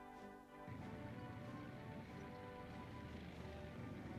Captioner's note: tanks driving